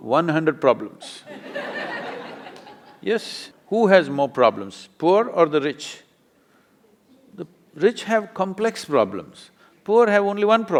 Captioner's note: laughter